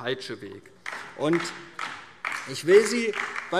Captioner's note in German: Beifall DIE LINKE